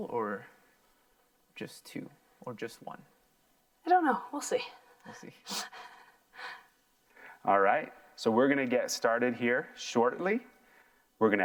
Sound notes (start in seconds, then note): 5.9 laughs